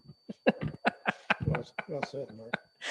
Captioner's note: laughing